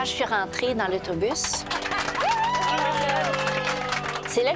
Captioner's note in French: applaudissements